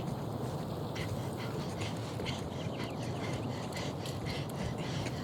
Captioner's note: Prudence panting heavily